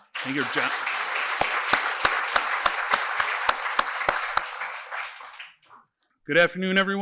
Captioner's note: applause